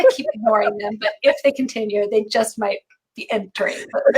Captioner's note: laughing